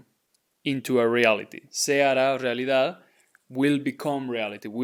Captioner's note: speaking in Spanish; speaking in Spanish